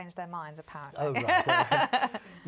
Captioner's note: laughing